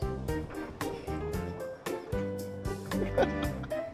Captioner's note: both laughing